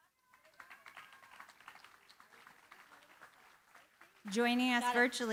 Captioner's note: applause